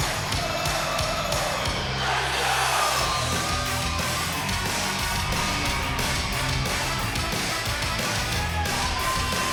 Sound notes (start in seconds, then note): 3.1 crowd cheers